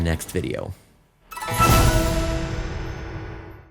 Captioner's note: logo swooshes